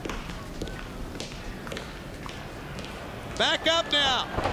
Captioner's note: feet shuffling